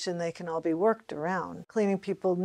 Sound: none

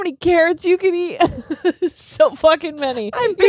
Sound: both laughing

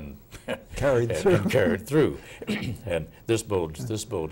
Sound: laughing

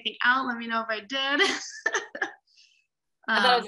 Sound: laughs

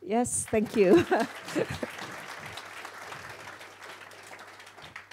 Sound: audience applause

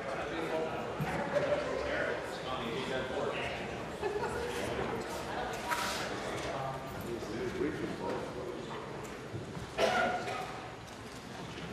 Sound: conversation din

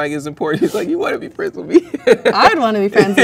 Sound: laughs

